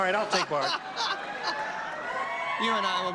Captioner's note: laughter